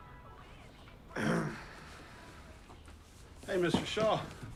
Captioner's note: Paul clears throat